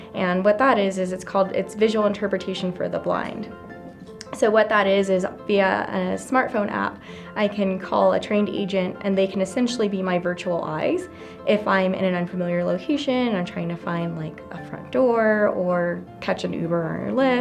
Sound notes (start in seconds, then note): none